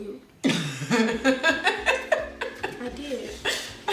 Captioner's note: laughs